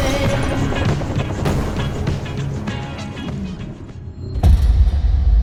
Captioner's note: loud thud echoing